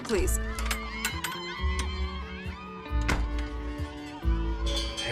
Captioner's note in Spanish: Algarabía de los fans